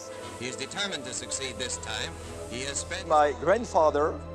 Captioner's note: television Voice